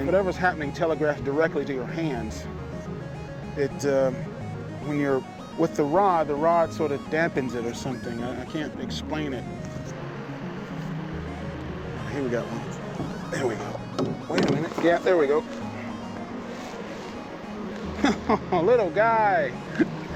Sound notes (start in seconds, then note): 9.8 motor whirring; 17.8 chuckling